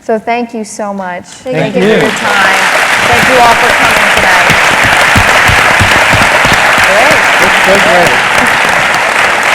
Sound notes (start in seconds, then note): 2.1 applause; 5.0 applause